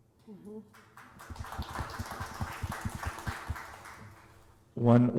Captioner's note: applause